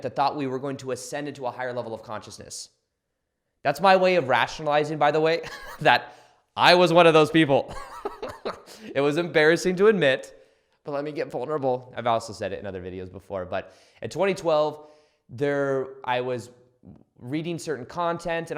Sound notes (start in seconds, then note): 7.6 laughs